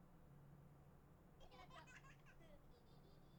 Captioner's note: children giggling